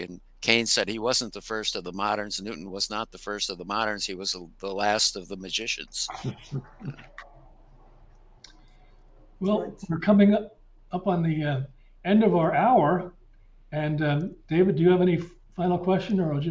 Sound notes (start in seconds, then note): 5.9 chuckling